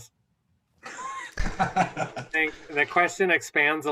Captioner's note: laughter